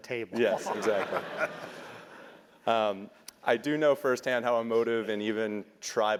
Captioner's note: laugh